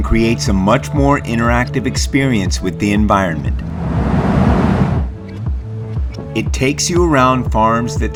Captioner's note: sound of blowhole